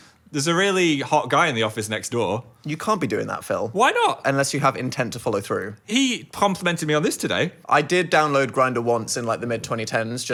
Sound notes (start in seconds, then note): none